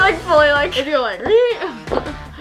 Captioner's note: laughs